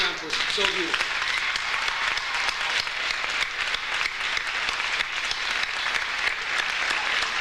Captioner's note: audience applauds; audience cheers